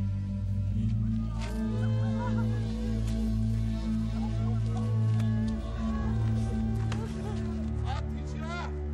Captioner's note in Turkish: Ağlıyorlar